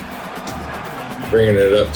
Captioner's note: crowd Noises